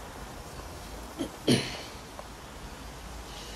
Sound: clears throat

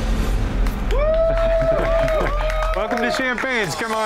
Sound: crowd cheering; crowd clapping

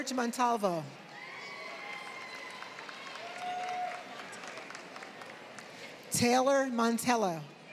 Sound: applause; applause

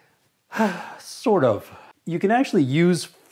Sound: exhales

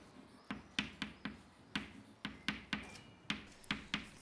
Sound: sound: chalk on blackboard

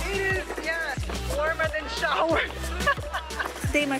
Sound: laughs

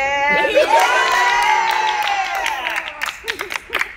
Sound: clapping

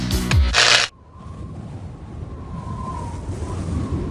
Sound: air whooshing

